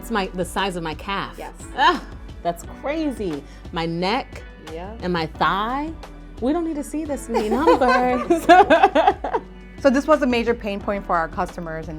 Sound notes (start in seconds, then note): 7.3 laugh